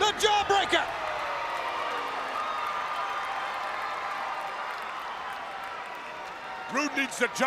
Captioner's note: crowd cheering